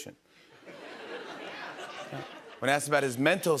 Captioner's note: laughter